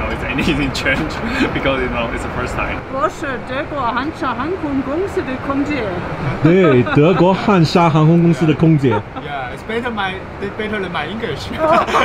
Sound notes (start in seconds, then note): 3.1 foreign language